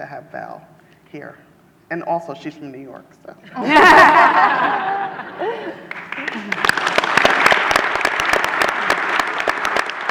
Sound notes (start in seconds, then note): 5.8 audience applause